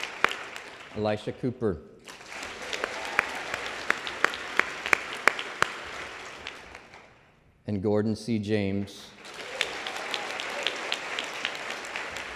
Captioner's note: applause